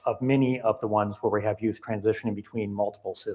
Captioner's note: audio cutting out